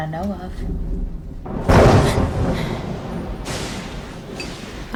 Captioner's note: thunder & lightning